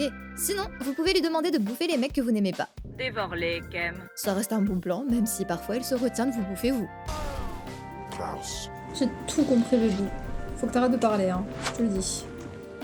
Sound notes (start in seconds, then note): 7.1 Khem's alien language in game